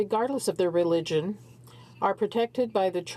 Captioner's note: speaking French